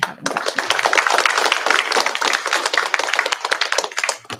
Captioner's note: applause